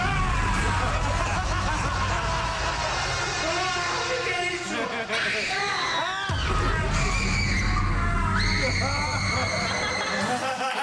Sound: laughter

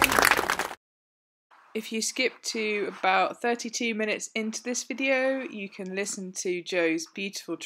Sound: applause

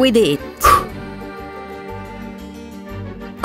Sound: candle blows out

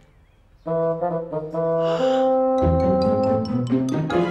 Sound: gasp

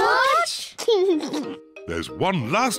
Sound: laughs

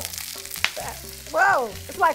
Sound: food sizzling

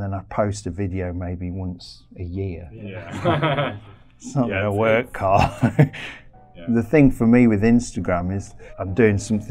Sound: laughter

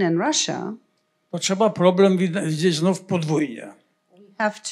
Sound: foreign language

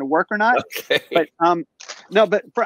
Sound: laughs

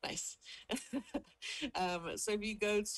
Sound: chuckles

